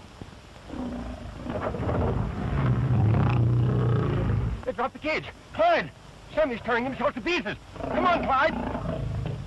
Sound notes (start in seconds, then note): 1.5 thud; 2.9 growling